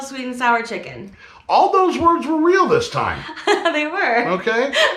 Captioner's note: laughing